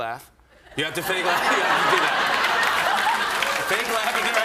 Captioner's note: laughter; laughs